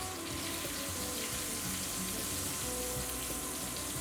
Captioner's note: sizzling